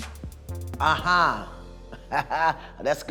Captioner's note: laughs